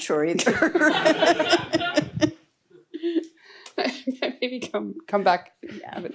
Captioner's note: chuckles